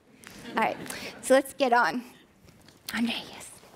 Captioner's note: laughing